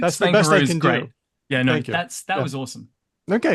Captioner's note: laughs